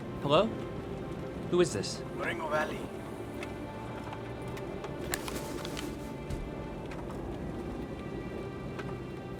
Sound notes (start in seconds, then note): 2.1 on phone